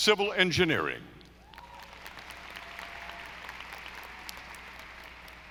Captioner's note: audience applauding